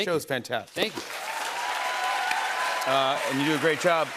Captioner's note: cheers and applause